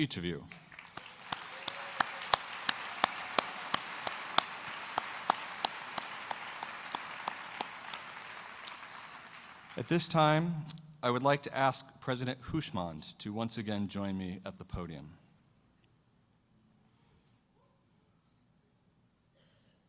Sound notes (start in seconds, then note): 9.5 applause